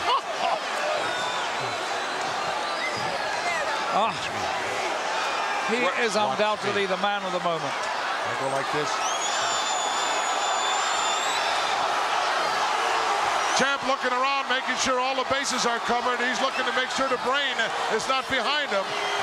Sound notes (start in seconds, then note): 0.1 chuckles; 10.9 audience cheering